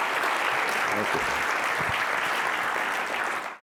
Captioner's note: applause